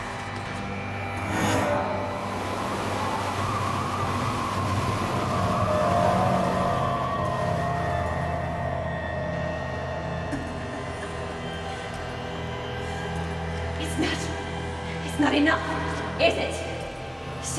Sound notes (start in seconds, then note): 1.6 winds blowing; 12.3 laughing